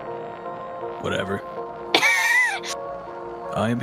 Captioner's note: laughs